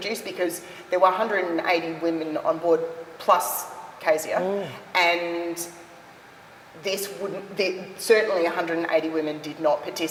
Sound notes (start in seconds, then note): none